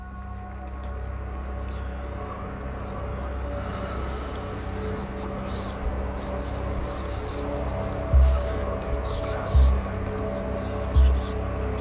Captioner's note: whispers